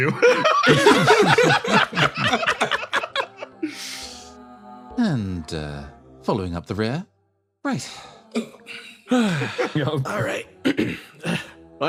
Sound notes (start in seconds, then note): 0.0 laughs; 8.3 sighs; 10.7 clears Throat